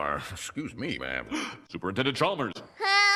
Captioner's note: gasp